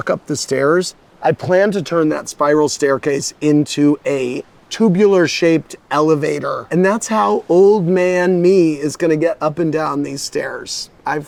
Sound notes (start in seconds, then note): none